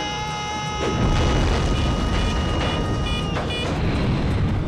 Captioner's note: alarm sounding